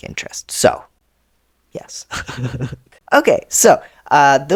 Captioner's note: laugh